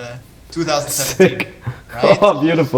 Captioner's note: chuckling